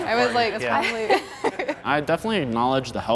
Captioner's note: laughter